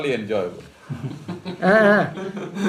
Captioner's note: laughter; laughs